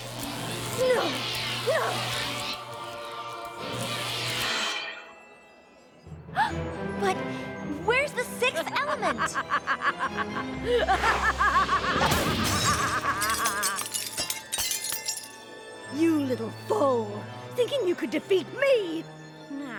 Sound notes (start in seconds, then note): 5.6 gasps; 8.5 laughs evilly